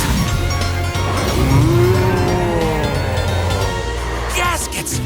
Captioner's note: roaring